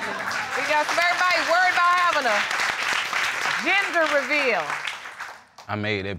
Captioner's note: crowd applauds